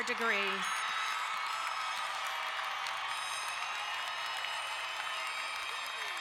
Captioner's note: crowd cheering and applauding